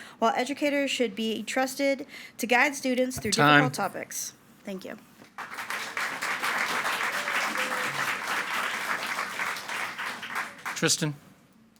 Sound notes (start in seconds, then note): 5.2 audience clapping